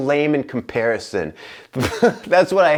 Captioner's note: laughter